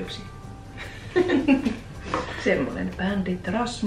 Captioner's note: laughing